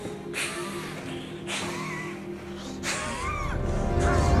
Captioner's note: wheezing